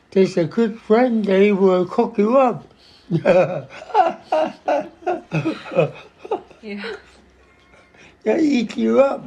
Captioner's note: <laughs>